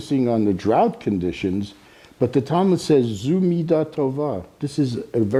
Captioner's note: speaking Hebrew